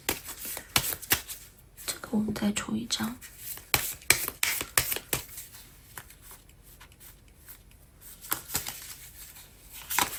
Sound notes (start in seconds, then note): 3.8 drawing cards; 9.0 drawing cards